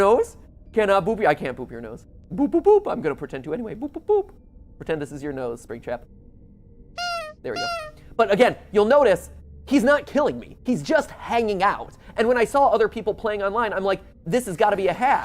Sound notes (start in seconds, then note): 7.0 honk